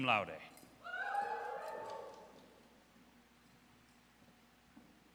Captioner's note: audience cheers